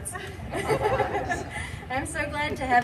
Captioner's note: laughter